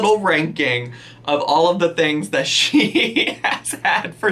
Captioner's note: laughing